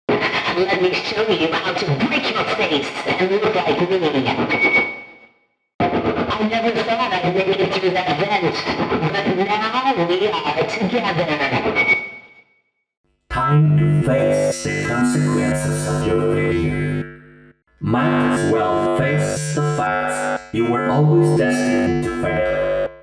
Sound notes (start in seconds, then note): 0.9 oscillating Voice; 6.7 oscillating Voice; 13.9 robotic, Resonating Voice; 18.5 robotic, Resonating Voice